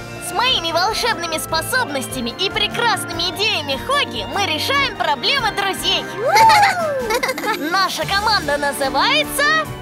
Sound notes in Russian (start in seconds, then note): 6.2 хихикают